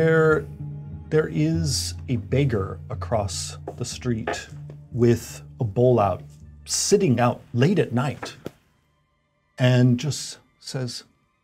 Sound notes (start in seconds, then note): none